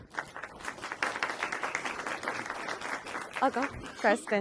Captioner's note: applause